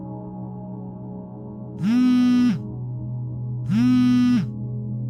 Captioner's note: phone Vibrating